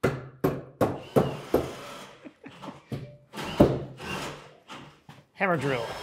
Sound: hammering; driver whirring

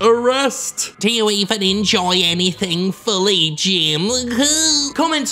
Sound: mocking sound

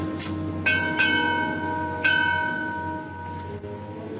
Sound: bell ringing

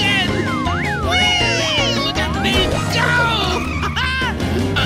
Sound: giggles

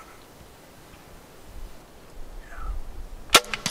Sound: arrow launched

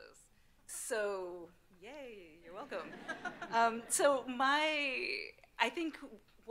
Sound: audience laughing

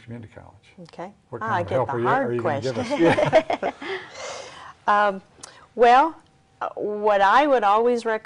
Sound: laughing

